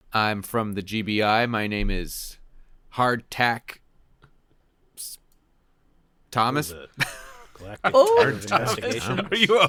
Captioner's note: multiple people mutter quizzically; laughing